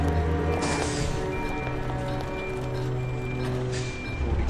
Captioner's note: backup signal beeping